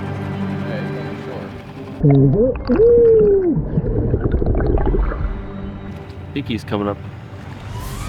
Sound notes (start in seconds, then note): 4.7 water bubbles